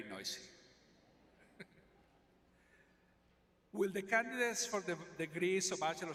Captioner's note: laughs